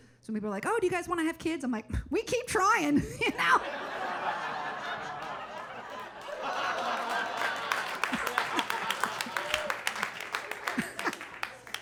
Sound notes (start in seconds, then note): 3.2 audience laughing; 6.2 audience laughing and clapping; 8.2 laughing